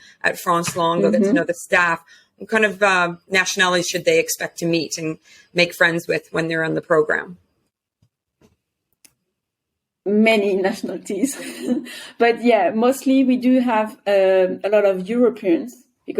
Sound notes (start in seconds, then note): 11.2 chuckles